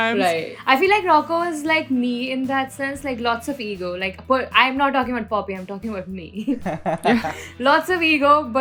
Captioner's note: laughter